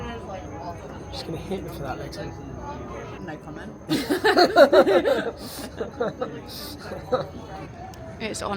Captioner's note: laughter